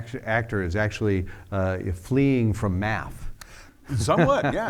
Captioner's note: laughs